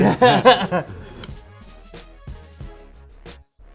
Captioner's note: both laugh